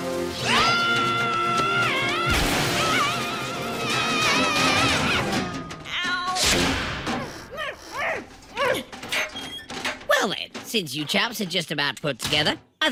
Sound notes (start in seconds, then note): 2.7 screaming; 7.2 grunting